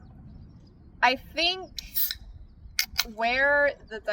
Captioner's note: dr pepper can cracks